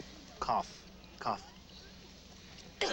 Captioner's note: coughs